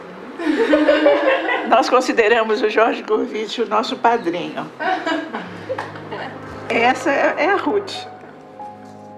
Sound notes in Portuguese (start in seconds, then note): 0.4 risadas; 4.8 risadas